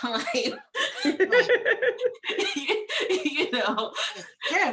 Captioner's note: laughing